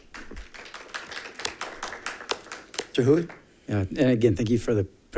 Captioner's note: members clapping